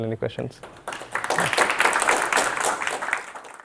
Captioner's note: audience applauding